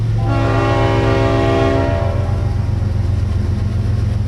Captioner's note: train whistle blows